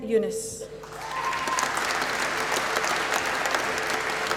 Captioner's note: applause